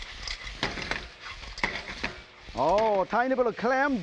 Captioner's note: sizzling